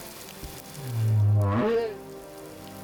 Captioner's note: moaning, honking